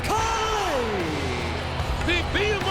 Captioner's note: audience jeers